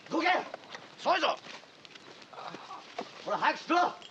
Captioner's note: shouting in Japanese